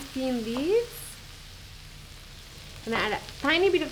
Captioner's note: sizzling